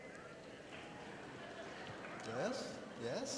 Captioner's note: audience chattering